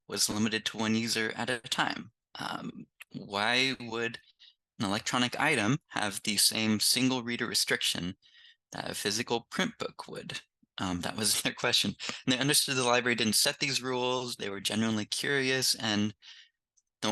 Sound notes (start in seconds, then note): 12.0 chuckles